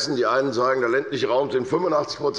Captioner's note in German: none